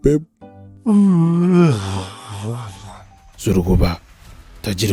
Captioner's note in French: Baillement